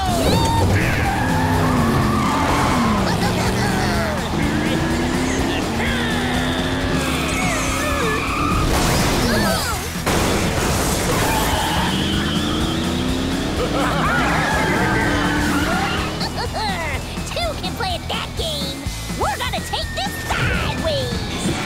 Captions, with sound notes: Yeehaw! [laughing] [growling] [groaning] [laughing] [laughing] Two can play that game. We're gonna take this sideways.